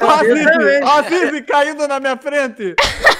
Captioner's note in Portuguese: rindo; rindo